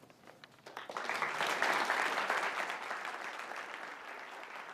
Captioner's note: audience applauds